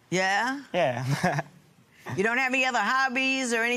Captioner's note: chuckles